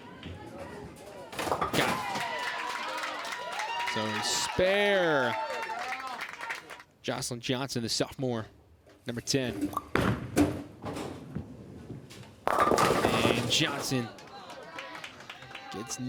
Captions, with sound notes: (crowd cheers and applauds) So the spare. Joslyn Johnson, a sophomore, number 10. And Johnson gets nine there,